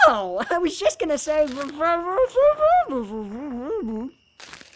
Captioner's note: muffled by sandwich